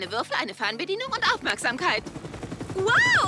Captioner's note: screaming